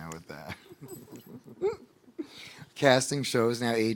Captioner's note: laughing